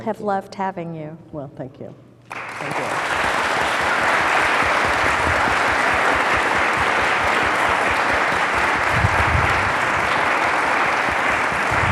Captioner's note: clapping